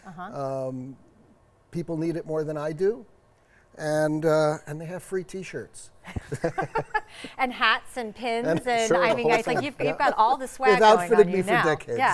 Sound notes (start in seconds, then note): 8.4 laughing